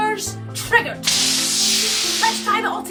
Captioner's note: fizzle